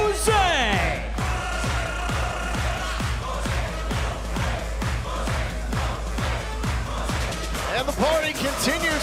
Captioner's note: crowd cheering